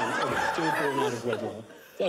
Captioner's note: laughter